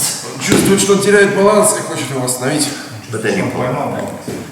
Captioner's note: speaking in a foreign language